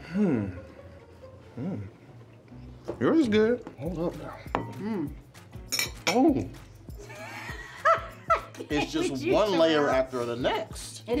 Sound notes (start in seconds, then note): 5.6 fork clinks; 7.0 Tia laughs